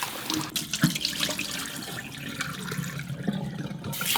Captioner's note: water draining out